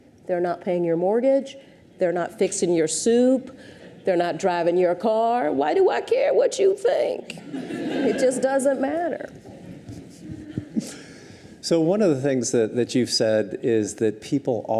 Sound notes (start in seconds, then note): 7.4 audience chuckles; 10.4 chuckles